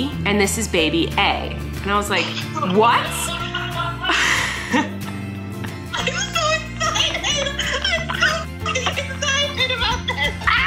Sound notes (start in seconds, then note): 2.1 Colleen laughs